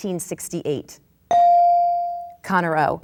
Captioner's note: bell dings